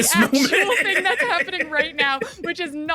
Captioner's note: laughs